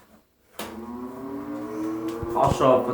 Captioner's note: the Heater turns back on